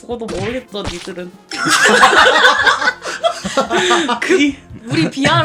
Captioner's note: all members laughing